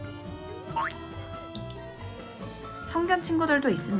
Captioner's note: click